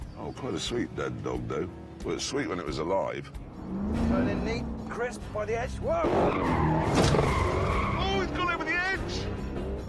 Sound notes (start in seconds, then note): 6.0 tyres screech